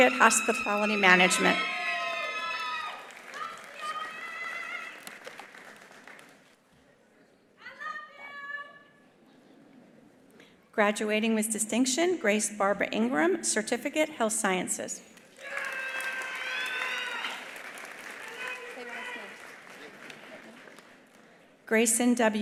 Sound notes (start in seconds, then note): 3.0 attendees applauding; 15.2 attendees applauding; 15.3 attendees cheering